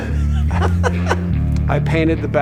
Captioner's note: laughing